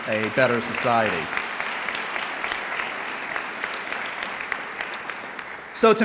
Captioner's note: audience clapping